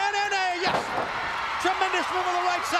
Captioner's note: crowd cheering